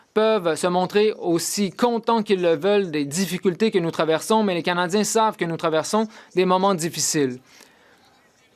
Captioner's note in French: voix de l'interprète